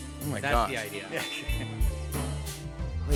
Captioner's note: chuckles